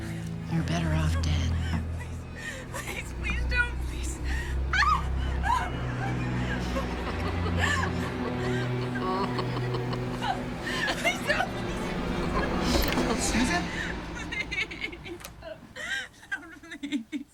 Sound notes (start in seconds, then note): 4.1 sobbing; 4.1 wicked cackling; 17.1 sobbing